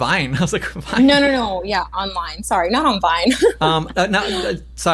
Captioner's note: laughs